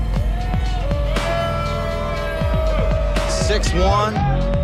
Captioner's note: audience booing